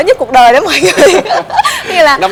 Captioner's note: laugh